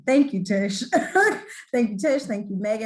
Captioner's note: laughs